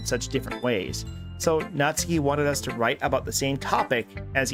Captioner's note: none